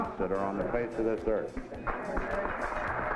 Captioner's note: applause